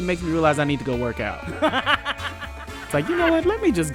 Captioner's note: laughs